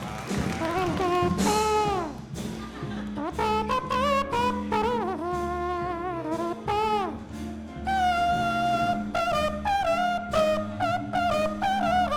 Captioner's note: applause; faux trumpet